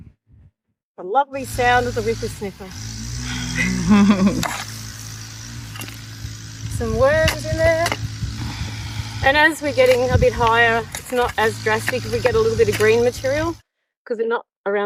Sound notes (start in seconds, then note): 1.3 the lovely sound of the whipper snipper/